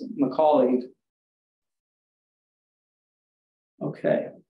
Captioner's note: silence